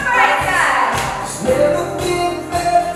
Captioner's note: laughing